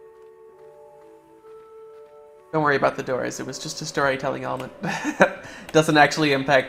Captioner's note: laughter